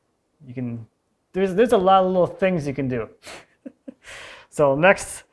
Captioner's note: chuckles